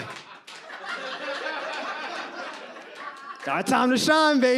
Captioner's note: audience laughs